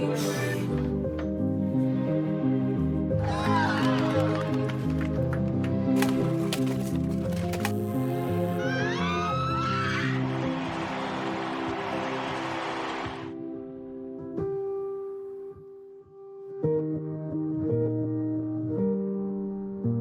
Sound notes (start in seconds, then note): 0.0 dogs squealing; 0.2 singing; 2.7 light music continues; 5.2 cheering and clapping; 6.0 sound of armor clicking; 8.3 electrical noise sound; 12.2 cheering; 13.1 cheering fades; 16.0 light music continues